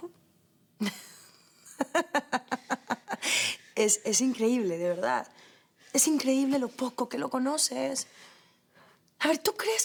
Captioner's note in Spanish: Risas